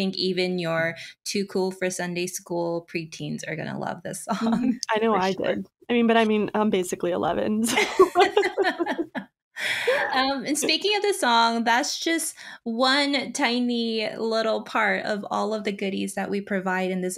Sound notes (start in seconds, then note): 7.8 laughing